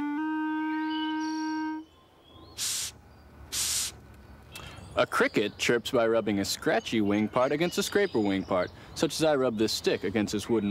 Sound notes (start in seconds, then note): 0.0 <i> plays notes</i>; 3.5 <i> blowing</i>